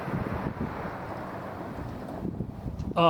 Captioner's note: wind blowing